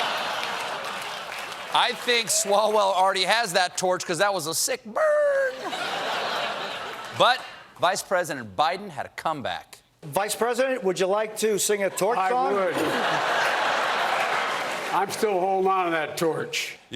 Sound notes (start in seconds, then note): 5.2 laughter; 12.0 laughter